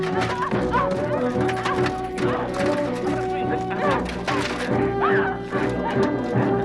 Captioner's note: armor clattering; Hundra grunting